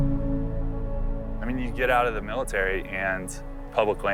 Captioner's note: voiceover